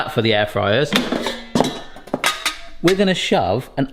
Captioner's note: equipment clattering